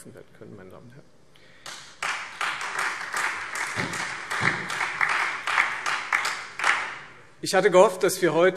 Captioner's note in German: Beifall